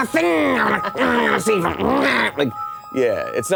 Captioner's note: grumbling maniacally